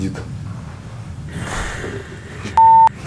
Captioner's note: the sound of a cough